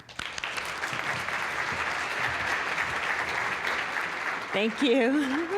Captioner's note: applause